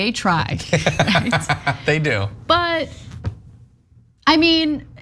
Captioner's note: laugh